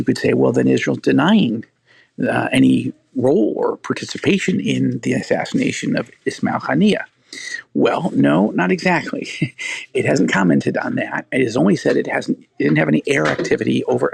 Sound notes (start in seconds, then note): 9.2 laughing